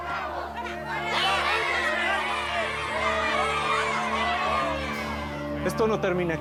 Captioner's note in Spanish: gritos y exclamaciones